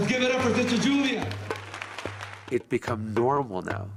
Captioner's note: everyone clapping